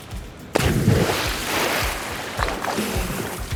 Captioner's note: splashing